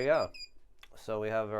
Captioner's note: triple beep